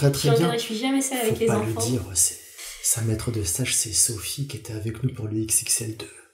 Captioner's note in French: cuchotte